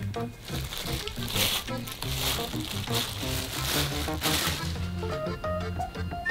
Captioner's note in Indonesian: suara sarung tangan plastik